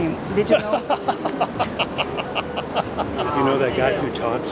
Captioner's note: laughing